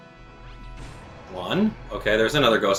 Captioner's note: explosion booms